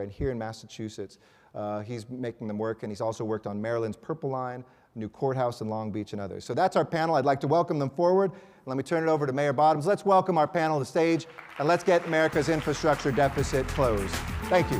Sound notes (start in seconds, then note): 11.2 applause